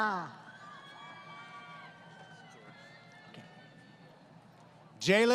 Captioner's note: crowd Cheering